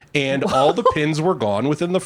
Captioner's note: laughs